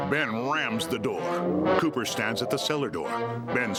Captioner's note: groaning